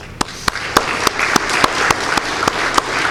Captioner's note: applause